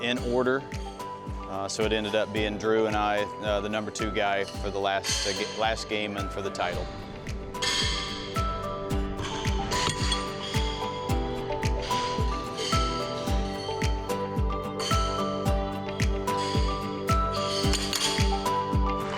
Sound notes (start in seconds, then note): 6.7 horseshoes clanking; 6.7 mellow music